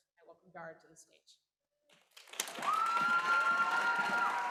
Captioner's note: applause